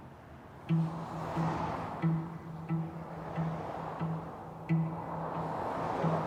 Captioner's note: traffic whooshing; intense music